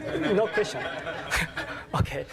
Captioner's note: laughter; laugh